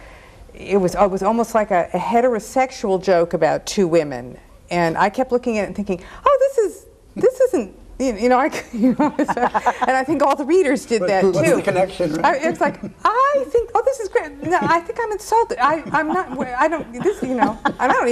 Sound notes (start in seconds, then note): 9.0 everyone laughs; 15.7 everyone laughs